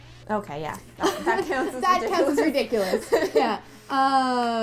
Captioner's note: laughing